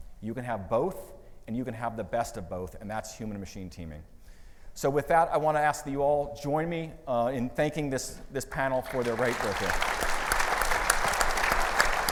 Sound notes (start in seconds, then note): 8.8 audience applauding